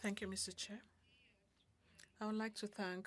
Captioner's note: speaking French